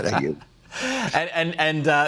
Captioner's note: laughter